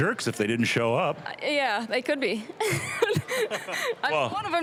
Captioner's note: laughing